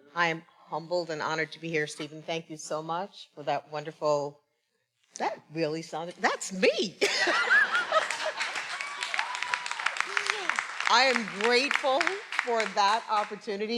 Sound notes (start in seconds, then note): 7.1 everyone laughing; 7.8 everyone applauding; 9.1 attendees cheering